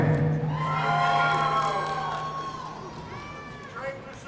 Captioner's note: audience cheering